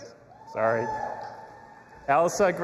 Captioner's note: audience applauding and cheering